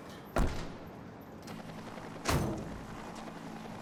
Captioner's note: helicopter flying